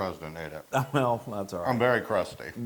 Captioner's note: laugh